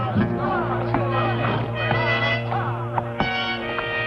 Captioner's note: shouting